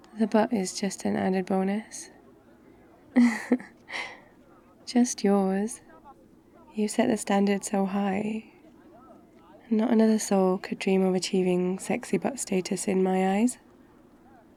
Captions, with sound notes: the butt is just an added bonus *laughs* just YOURS you've set the standard so high not another soul could dream of achieving sexy butt status in my eyes